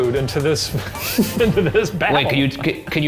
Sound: laughs

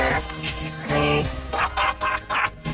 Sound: laughs

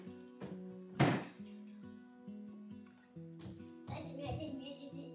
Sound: trash can lid bangs

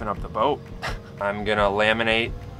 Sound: chuckle

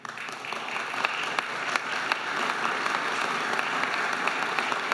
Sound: everybody applauding

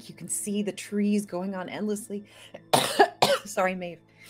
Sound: coughs

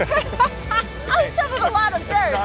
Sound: laughter

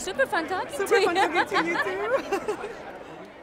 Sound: laughs

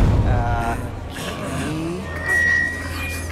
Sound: all murmuring

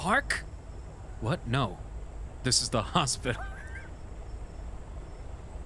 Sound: laughing

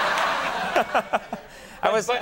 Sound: audience laughs; laughs

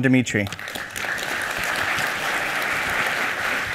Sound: applause

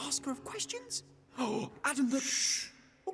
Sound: gasps

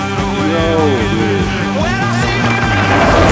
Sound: exclaiming appreciatively

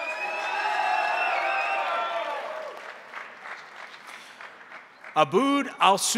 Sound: crowd cheering; crowd applauding

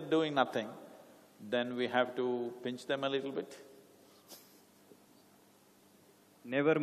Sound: laughs

